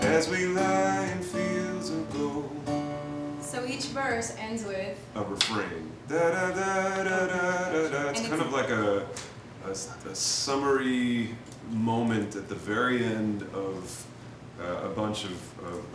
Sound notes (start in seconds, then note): 6.2 mimics melody